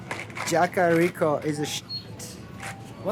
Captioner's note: beep